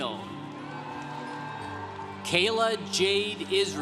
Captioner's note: congregation cheering